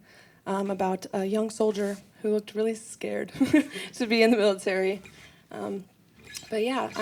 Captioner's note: laughs